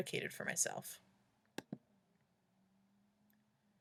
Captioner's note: clicking box- 'I agree'